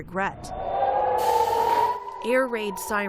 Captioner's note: sirens blaring